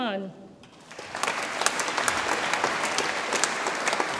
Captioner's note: audience applauds